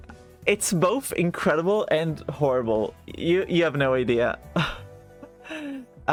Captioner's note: sigh